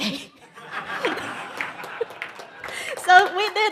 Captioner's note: audience laughs and applauds